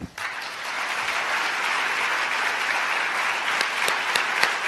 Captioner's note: applause